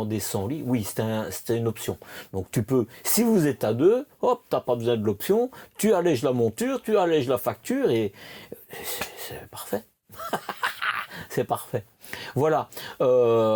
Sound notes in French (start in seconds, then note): 10.1 rires